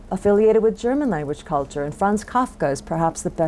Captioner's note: foreign language